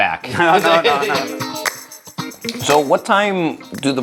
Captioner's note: laughs